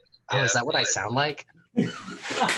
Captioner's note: audio feedback